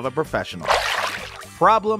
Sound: water splashing

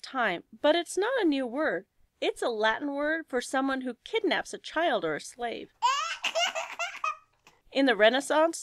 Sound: baby laughing

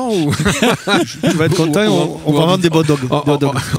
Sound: laughs

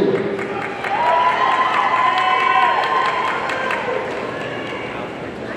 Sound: audience cheering and applauding

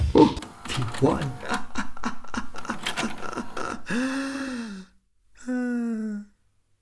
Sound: raucous laughter in the distance

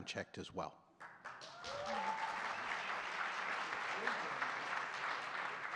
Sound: audience cheering and clapping

